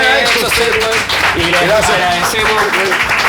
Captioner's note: applause